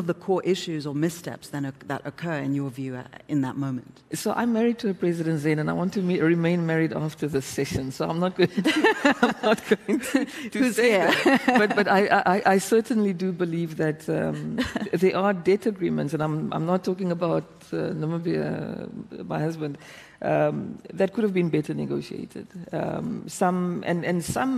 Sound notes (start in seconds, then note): 10.9 laughter